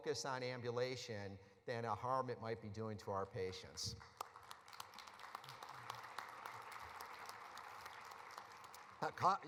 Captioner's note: applause